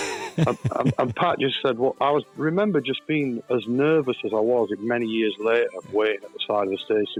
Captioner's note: laughs